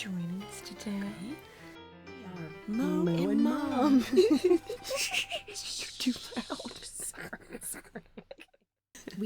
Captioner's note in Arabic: يضحك